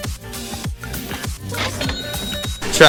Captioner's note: ka-ching!; imitating trumpet fanfare